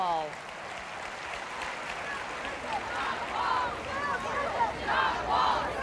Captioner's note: loud cheering and shouting